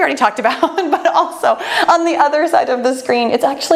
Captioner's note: laughs